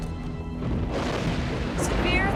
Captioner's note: thunder claps and rumbles